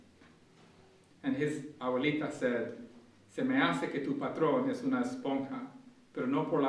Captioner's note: speaking in Spanish